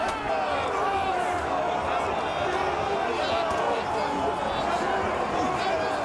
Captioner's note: crowd yelling continues